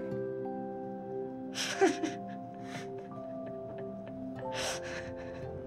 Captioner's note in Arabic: ضحك